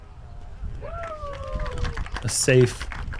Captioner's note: cheering